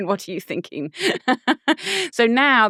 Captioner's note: laughing